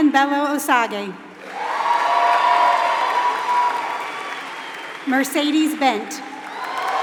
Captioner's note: applause